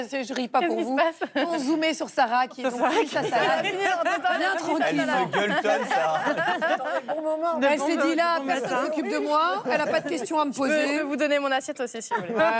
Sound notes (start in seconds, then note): 4.8 laughter